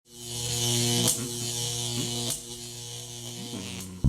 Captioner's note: electricity crackling, humming